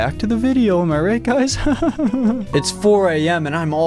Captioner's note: laughing